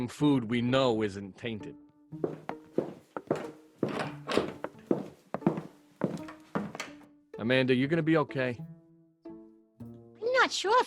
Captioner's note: Door opens, Christine and Abigail exit